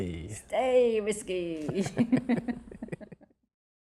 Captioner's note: both laugh